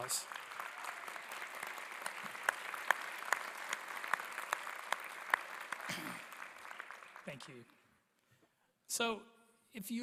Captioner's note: applause